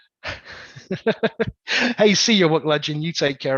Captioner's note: laughs